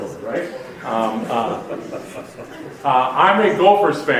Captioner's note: audience laughs